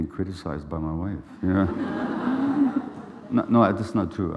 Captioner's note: laughing